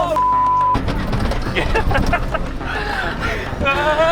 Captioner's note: laughs